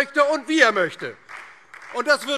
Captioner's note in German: Beifall DIE LINKE und Freie Demokraten